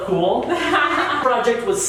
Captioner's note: laughs